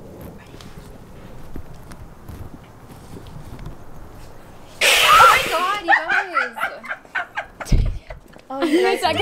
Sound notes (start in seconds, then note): 4.8 screams; 6.9 laughing